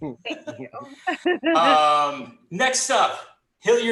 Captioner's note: laughs